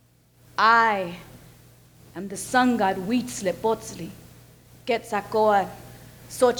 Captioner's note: speaks foreign language